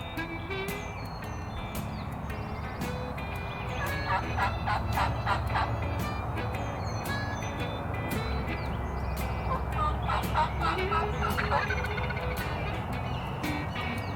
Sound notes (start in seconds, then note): 3.9 blues music; 3.9 turkey calls